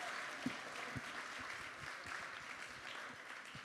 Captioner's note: applause